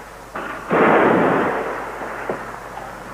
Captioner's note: shots firing